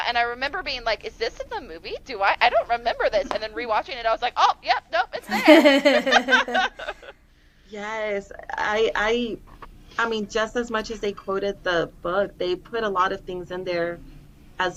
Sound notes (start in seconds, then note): 5.2 laughter